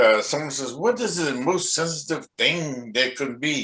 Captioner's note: none